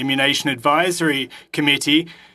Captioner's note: speaking French